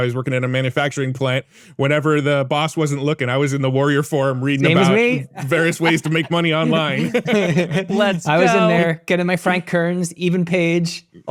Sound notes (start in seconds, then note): 5.3 laughing